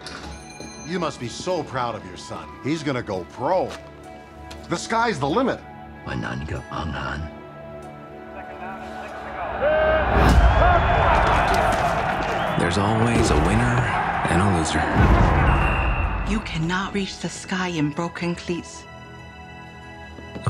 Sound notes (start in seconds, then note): 0.1 doorbell rings; 6.2 speaking Taishanese; 11.5 crowd cheering; 15.3 whistle blows; 19.1 inspirational music